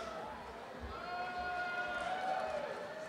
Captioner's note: applause